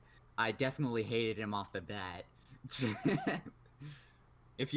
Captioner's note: laughs